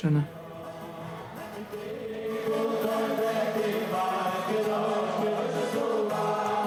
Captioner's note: young man speaking in foreign language; musicians speaking in foreign language